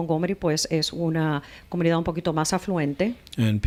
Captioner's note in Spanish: Hablando ingl\s